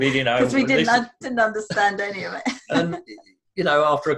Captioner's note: laughs